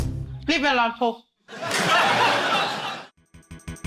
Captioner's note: laughter